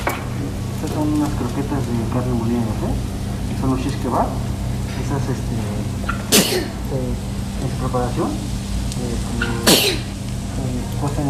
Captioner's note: sneezes